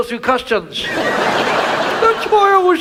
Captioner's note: audience laughs